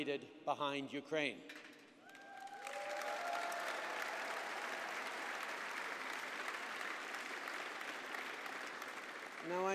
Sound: applause

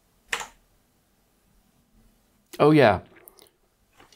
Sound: blank Audio

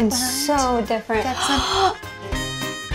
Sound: gasp

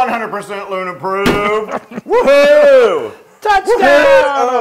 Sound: laugh

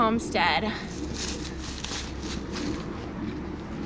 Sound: sounds of leaves crunching

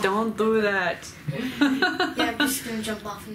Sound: laughing

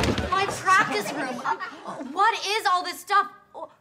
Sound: gasps

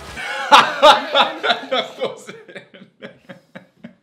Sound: laughing

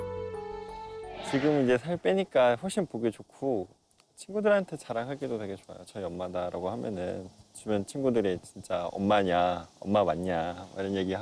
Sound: voiceover

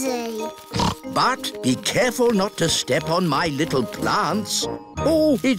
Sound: snorts

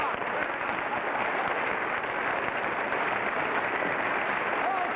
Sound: audience applauding

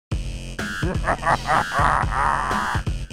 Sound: menacing Laughter

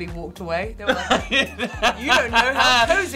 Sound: Tan laughing

